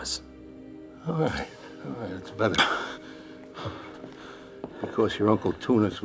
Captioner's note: choking; panting